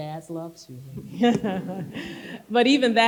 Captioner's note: people chuckling